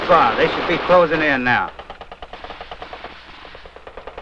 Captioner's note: gun shooting